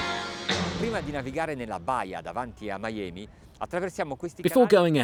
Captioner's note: speaking foreign language